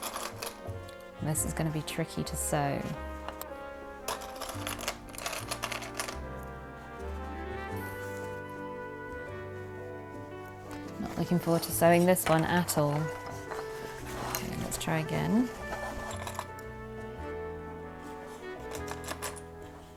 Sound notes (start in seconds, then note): 7.9 clips rattling